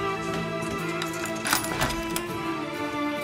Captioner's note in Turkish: Kapı Açılıyor